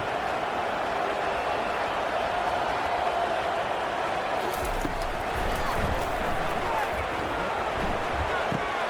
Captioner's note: crowd Noises